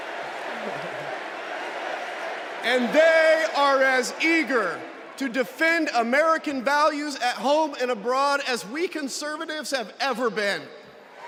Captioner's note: crowd chanting